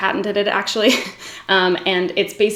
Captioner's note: giggles